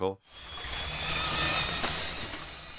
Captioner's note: whirring